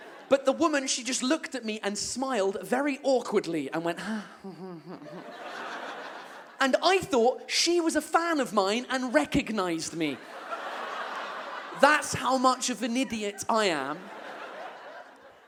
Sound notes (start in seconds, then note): 4.5 fake laughter